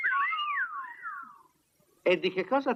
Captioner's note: all whistle